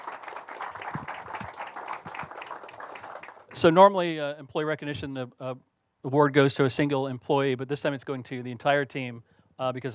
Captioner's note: applause